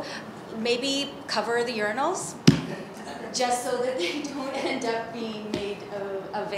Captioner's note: laughs